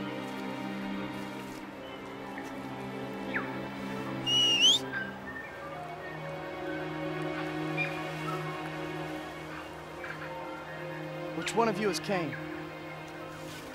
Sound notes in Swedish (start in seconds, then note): 4.2 visslande